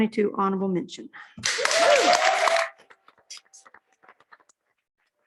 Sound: applause

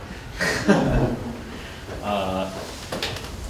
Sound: laughs

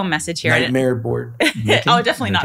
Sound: laughing

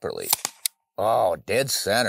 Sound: shot fires

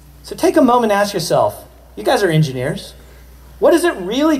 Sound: none

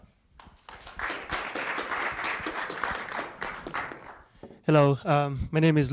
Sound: applause

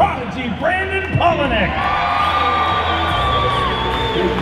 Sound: crowd cheering

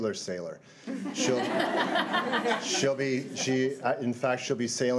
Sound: crowd giggling

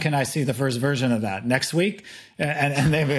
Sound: chuckling

